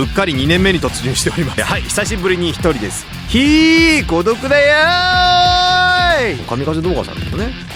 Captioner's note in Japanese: 叫び声